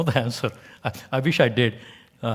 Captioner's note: laugh